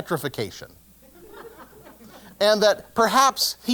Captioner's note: laugh